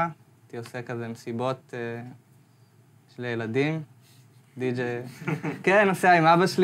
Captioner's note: audience laughs